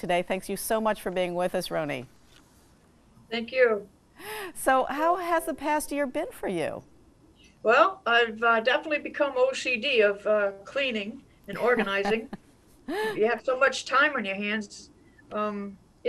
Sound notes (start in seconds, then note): 11.5 laughs